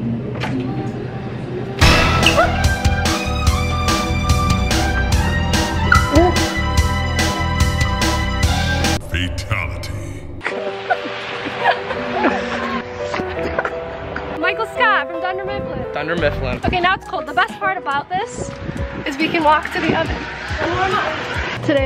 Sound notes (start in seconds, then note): 1.8 dramatic music; 8.7 Mortal Kombat Voiceover